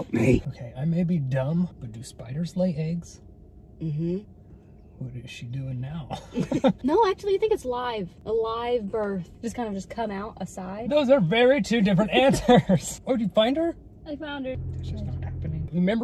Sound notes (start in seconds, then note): 6.1 laughing